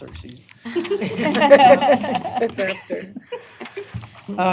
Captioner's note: laughter